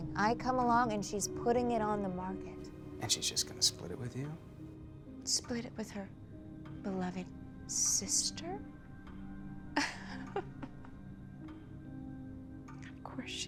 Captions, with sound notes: I come along and she's putting it on the market. - And she's just gonna split it with you? - Split it with her beloved sister? (Raven laughs) Of course she is.